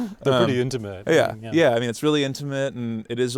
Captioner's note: laughs